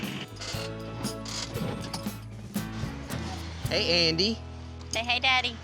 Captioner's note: tractor engine stops